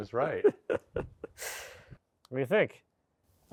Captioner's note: speaker laughing